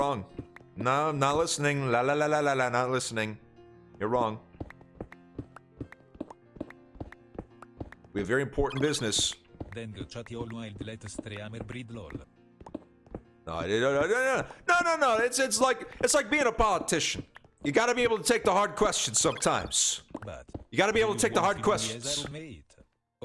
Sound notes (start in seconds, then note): 13.9 stutters